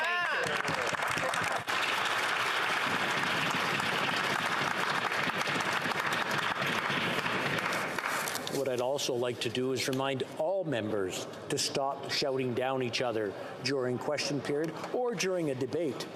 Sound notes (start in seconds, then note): 3.7 applause